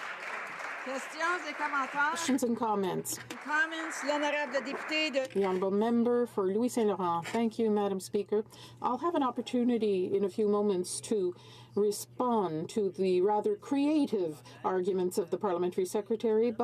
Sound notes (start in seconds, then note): 3.2 some Applause